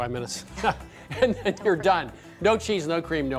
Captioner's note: laughs